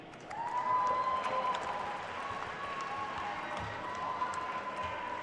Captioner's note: attendees cheering and applauding